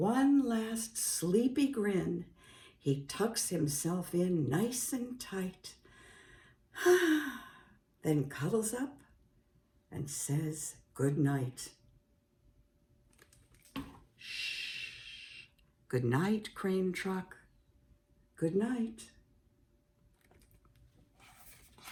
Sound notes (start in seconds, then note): 6.8 sigh!